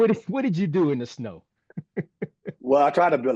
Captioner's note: chuckle